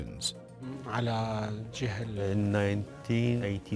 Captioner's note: man speaks in foreign language